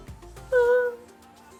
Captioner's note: cries